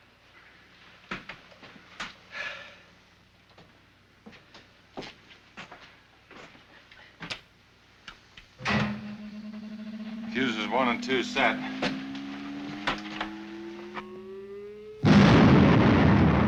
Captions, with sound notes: (sighs) - Fuses one and two set. (machine whirring) (explodes)